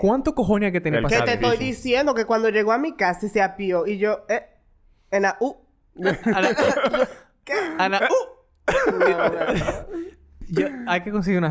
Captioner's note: laughs